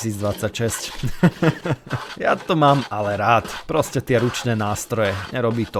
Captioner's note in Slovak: smiech